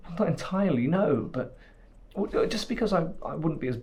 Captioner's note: none